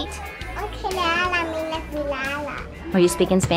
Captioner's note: speaking in Spanish